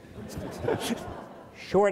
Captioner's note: audience laughs